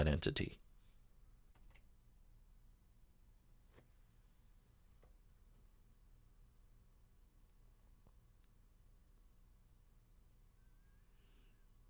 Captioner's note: pause